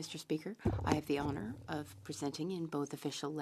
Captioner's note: speaking French